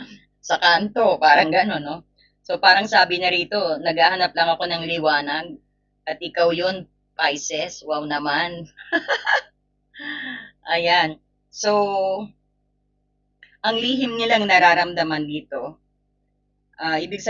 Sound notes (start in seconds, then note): 8.8 laughter; 10.0 sigh